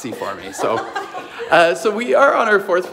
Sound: laughing

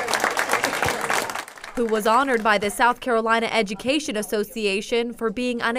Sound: applause

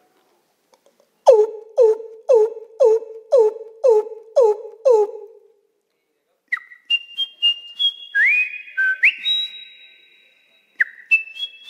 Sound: makes sounds of birds and animals

